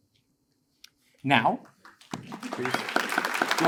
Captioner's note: attendees applaud